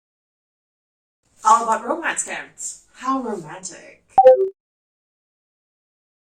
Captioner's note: sarcasm